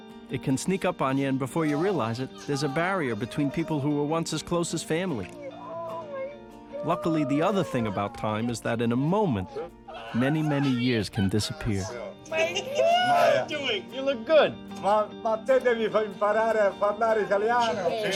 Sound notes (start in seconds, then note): 8.4 speaking Italian